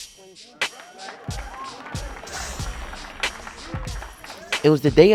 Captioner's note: audience applauds